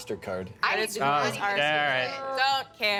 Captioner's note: several speaking at once